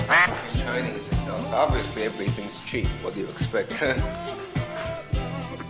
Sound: laughing

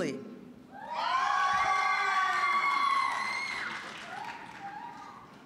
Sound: audience cheering

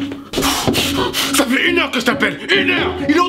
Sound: nervous

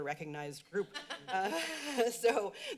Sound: laughs

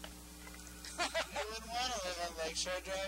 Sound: laughing

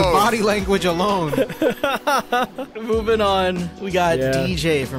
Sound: laughing

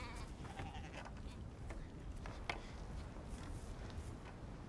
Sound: bleating

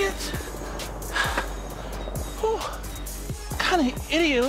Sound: panting

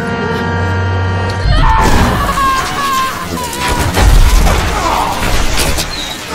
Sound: screaming with anger

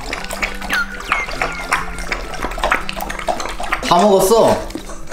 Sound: drinking water sounds way much louder; laugh

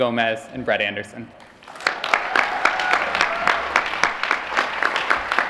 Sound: applause

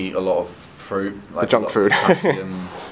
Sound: laughing

